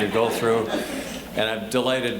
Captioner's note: audience laughing